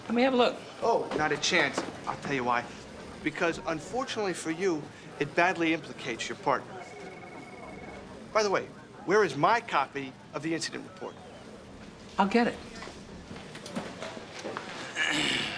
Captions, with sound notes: Let me have a look. Oh, not a chance. I'll tell you why, because unfortunately for you, it badly implicates your partner. By the way, where is my copy of the incident report? I'll get it. (clears throat)